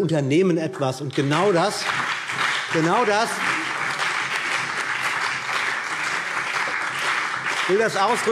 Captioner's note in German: Beifall CDU und BÜNDNIS 90/DIE GRÜNEN